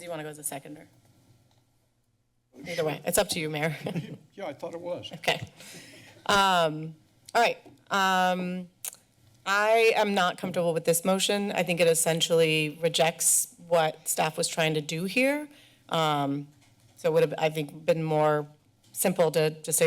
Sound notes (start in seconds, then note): 1.4 pause; 4.0 laughs; 8.8 smacks lips